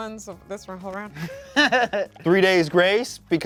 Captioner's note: laughs